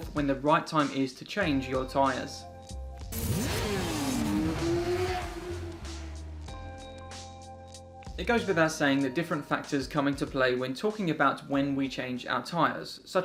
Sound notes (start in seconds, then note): 3.1 motorcycle engine roaring